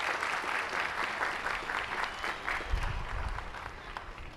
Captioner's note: applause